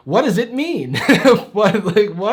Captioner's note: chuckles